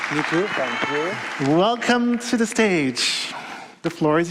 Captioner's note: applause